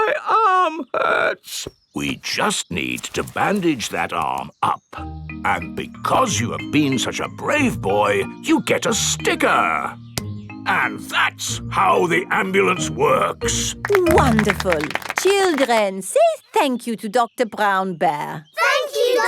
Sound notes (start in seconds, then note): 0.2 in teddy's voice; 2.5 in normal voice